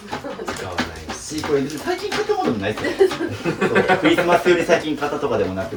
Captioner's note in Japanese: 笑い